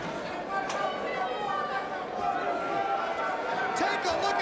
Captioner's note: crowd chattering